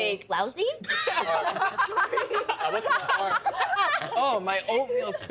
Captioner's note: women laughing